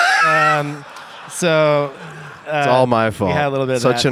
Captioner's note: Tim laughs